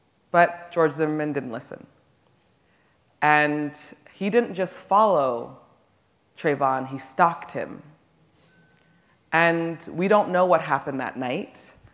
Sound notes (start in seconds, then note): none